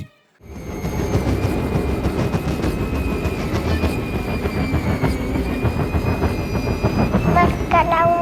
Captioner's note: wind and train noises